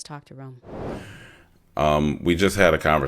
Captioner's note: graphic swooshing